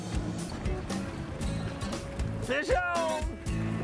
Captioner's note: splashing